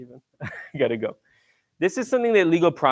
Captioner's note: laughs